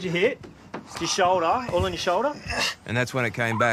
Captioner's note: groans